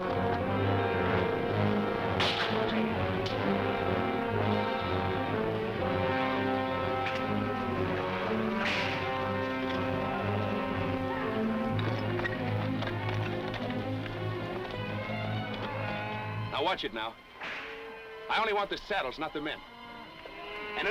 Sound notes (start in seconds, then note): 0.1 dramatic orchestral music; 2.1 whip cracks; 8.4 whip cracking